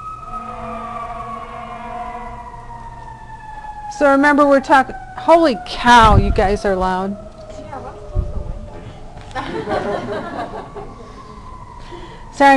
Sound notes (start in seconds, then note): 0.3 sirens in distance; 4.6 sirens wailing; 9.3 all laughing